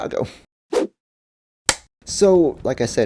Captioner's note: whoosh, film clapper sound